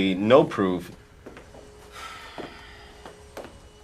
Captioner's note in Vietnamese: thở dài